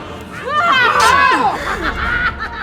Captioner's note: vampire laughing; vampire yelling; knife thudding